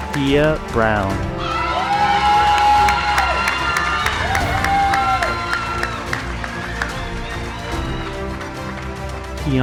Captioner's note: cheering